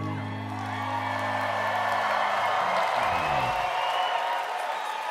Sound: crowd cheering

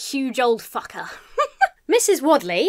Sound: giggles

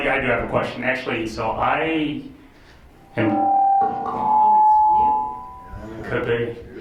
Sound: microphone feedback

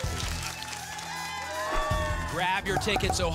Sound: audience applause

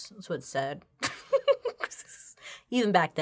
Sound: laughs

